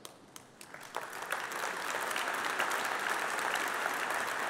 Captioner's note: applause